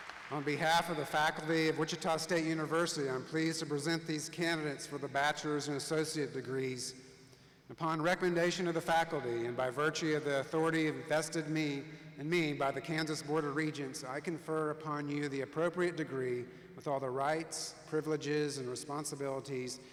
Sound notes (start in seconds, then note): 0.0 applause